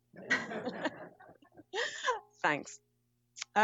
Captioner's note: laughter